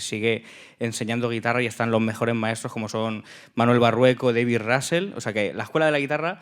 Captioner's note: speaking in Spanish